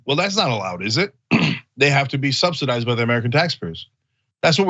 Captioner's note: cough